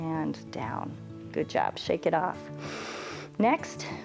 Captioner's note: inhales